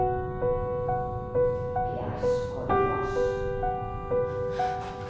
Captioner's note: sad piano music; female voice